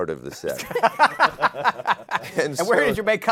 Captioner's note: laughter